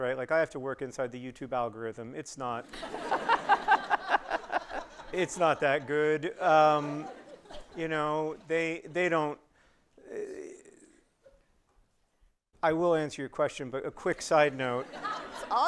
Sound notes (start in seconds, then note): 2.6 audience laughing